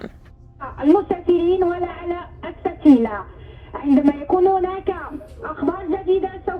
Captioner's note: speaker speaking in foreign language